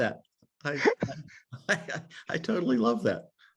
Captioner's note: laughs